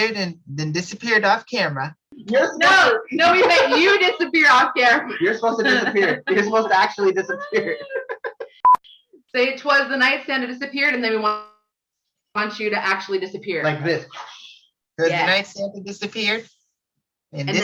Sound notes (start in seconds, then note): 8.1 all laughing; 14.6 whooshes